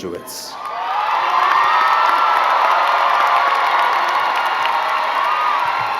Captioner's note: crowd cheering and clapping